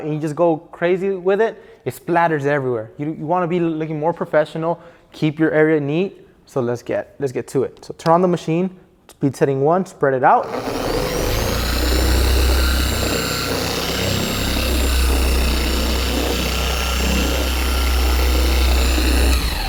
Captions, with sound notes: and you just go crazy with it, it splatters everywhere you want to be looking more professional, Keep your area neat, so let's get to it. So turn on the machine speed setting one, spread it out. (rubbing)